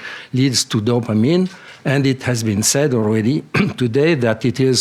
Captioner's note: coughs